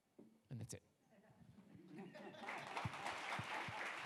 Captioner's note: audience applauds